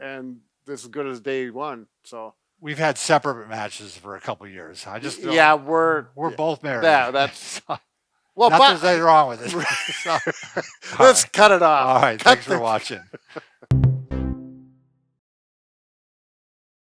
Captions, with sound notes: and it is good as day one. - We've had separate mattresses for a couple of years. I just don't-- - Yeah, we're both married. - There that's, what is wrong with us? (laughing) - Lets cut it off. - All right thanks for watching. (laughing) (upbeat music)